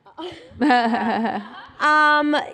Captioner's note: laughter